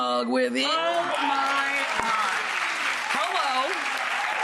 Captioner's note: crowd cheers